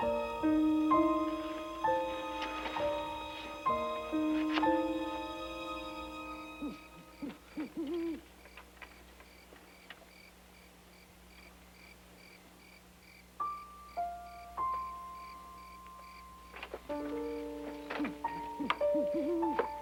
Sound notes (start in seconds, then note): 0.0 soft piano music; 6.3 owl hooting; 13.4 soft solemn music